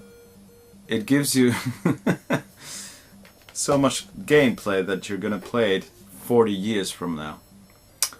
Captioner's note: laughing